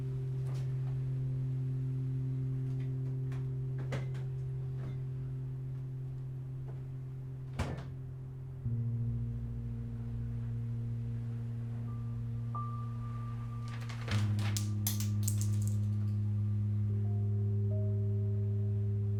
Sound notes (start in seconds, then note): 0.0 gentle piano music plays; 13.6 magnet hits floor; 15.8 gentle piano music plays